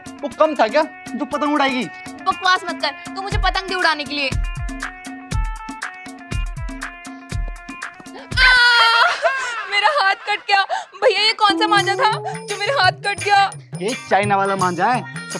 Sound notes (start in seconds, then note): 8.4 shouting